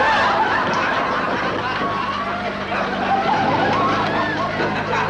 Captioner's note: audience laughter